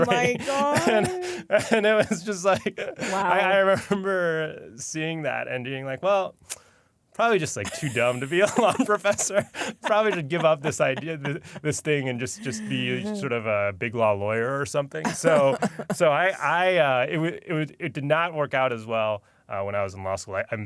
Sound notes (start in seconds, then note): 0.0 laughs; 6.4 clicks lips